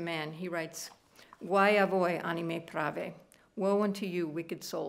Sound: speaking italian

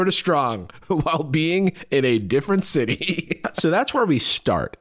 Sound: laughs

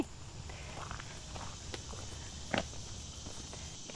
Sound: walking

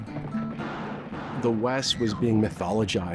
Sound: gun shots

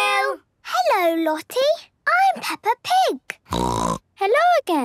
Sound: snorting

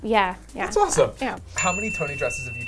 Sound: bell dings

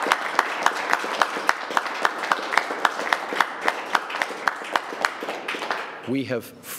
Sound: applause

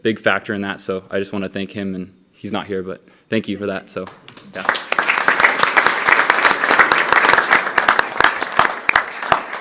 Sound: applause

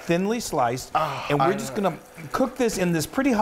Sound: moans

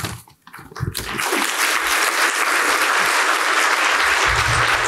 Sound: audience applauding

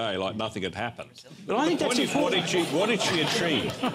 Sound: laughter

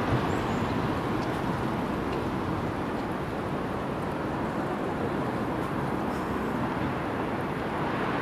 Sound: none

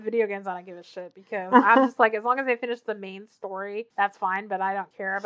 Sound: laughs

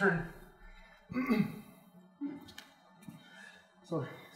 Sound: painful grunt

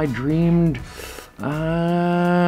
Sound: inhales sharply

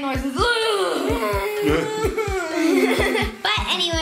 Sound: moaning

